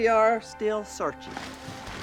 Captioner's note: clattering